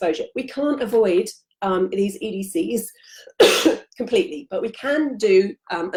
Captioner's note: coughs